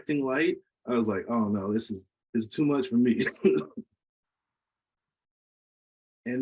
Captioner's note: laughs